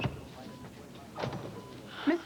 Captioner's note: sigh